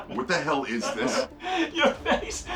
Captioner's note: Ben laughing